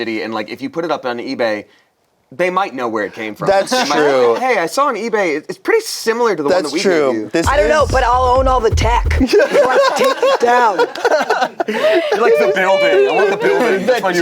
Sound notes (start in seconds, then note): 9.2 group laughs